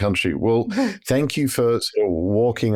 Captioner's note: chuckles